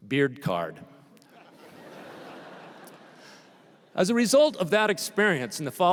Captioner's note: laughter